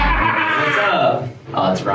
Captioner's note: yelling